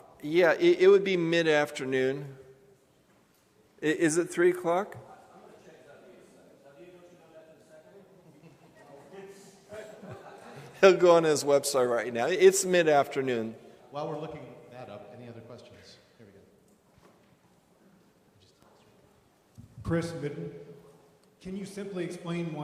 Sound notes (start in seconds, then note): 8.0 laughter